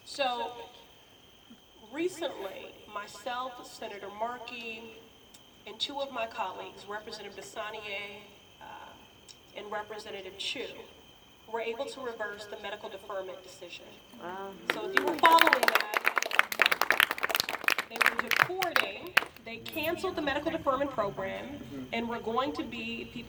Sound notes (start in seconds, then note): 14.6 applause